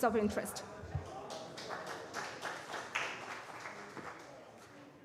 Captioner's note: applause